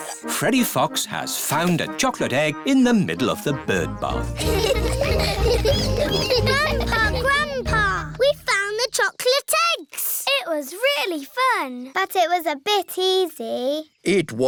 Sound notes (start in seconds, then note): 4.3 all laughing